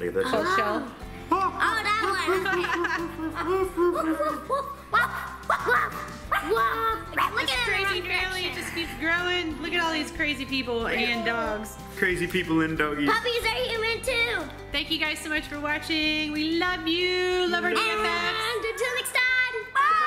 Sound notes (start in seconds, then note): 3.0 dog barking sounds